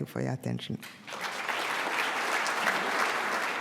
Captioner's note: applause